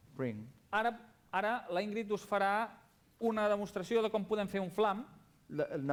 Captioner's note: non-english speech